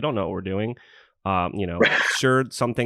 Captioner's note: laughs